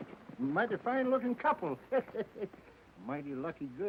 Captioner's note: laughs